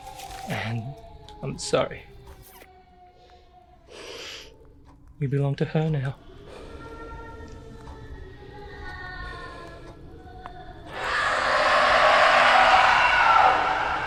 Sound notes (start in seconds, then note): 6.7 haunting child moan; 10.9 Haunting Malice and Zheng scream